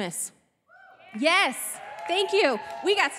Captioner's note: audience cheering